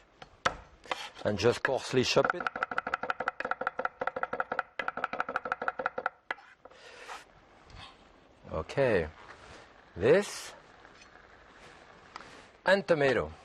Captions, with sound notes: and just coarsely chop it. (chopping board thumping) Okay. This and tomato.